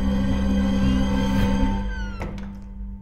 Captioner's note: Door opens and closes